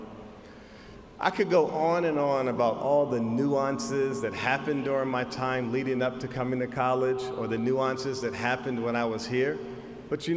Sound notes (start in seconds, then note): none